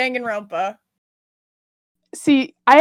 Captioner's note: pregnant Pause